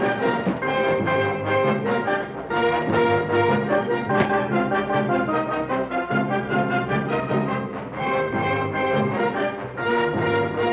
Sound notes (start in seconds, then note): 4.1 thud